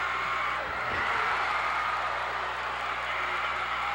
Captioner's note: cheers